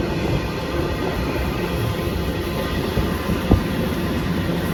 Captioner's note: train sound